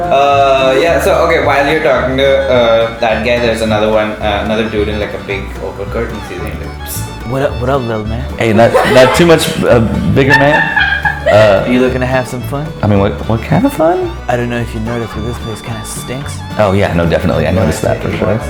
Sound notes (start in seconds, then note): 8.6 laughter